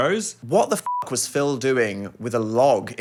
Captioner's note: beep